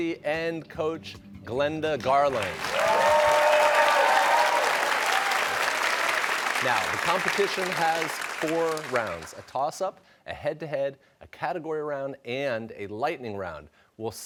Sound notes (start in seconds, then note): 2.2 cheers and applause